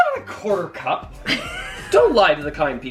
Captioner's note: laughing